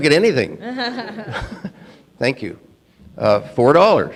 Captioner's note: laughing